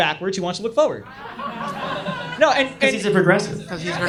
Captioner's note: audience laughs